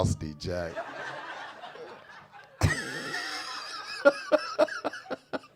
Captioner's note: audience laughing; laughing